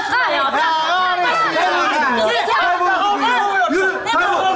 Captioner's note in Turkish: bağrışmalar